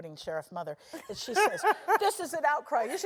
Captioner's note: laugh